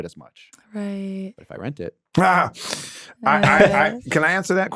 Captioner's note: laughs